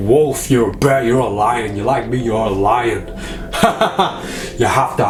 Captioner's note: laughs